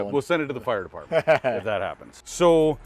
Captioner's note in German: lacht